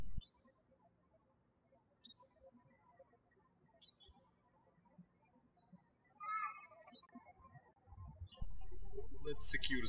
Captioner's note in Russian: птички щебечут